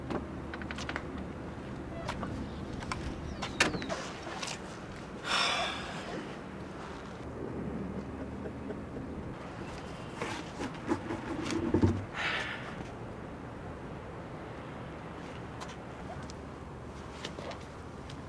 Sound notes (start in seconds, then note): 5.2 sighs